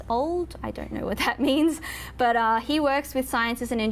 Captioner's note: laughs